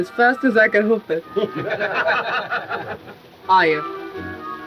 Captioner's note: men laughing